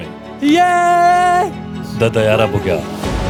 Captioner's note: screams in joy